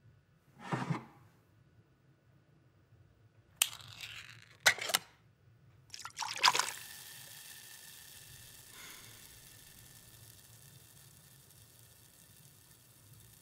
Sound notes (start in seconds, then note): 0.2 can scrapes; 3.6 can clacks; 5.9 liquid fizzing; 8.4 Ellie sighing